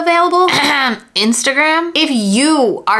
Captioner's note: coughs